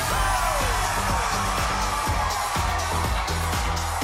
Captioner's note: audience cheering